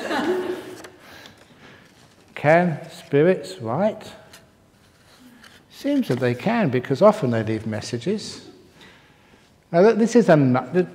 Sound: laughter

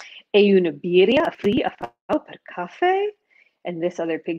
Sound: speaking foreign language

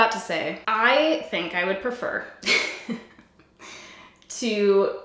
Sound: giggles

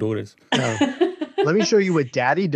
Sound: laughs

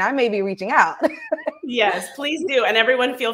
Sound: laughs

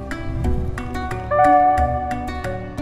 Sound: alert tone

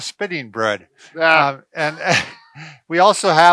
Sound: chuckles

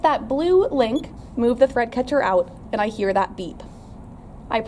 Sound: beeping noise

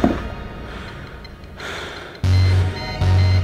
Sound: quiet beeping; buzzing! loud droning!

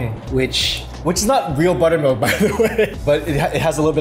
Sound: chuckles

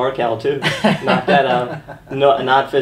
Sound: laughter

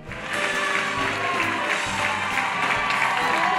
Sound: cheering

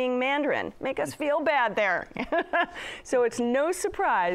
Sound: laughs

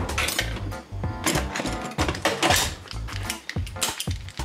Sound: metal clinking

